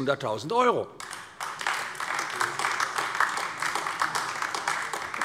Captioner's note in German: Beifall AfD